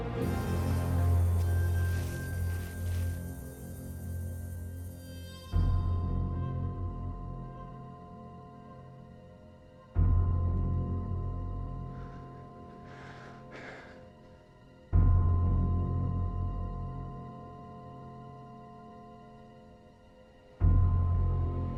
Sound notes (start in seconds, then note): 0.2 suspense music; 11.8 breathing heavily; 14.5 suspense music